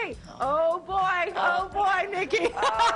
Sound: laughter

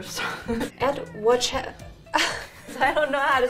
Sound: laughs

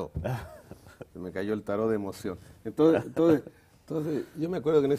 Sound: ríe

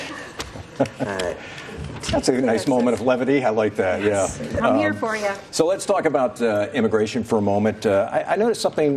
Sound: laughter

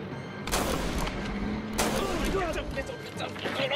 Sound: gunshots booming

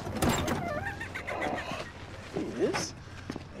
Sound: eagly squawking

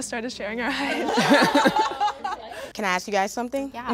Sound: all laugh

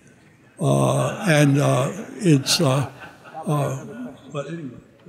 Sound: audience laughing

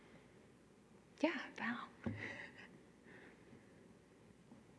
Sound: chuckles

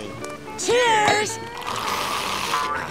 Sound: slurping

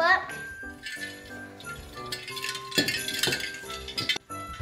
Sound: bell jingling

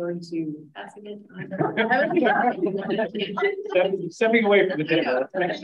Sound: laughs

